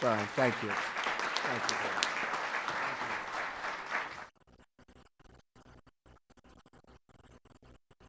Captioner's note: applause